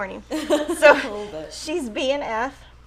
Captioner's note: chuckles